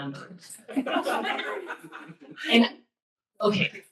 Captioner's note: laughter